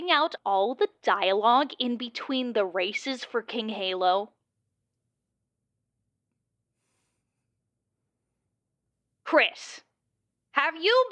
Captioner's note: an uncomfortable moment of silence here